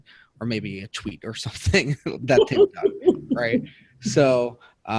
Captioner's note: speaking faintly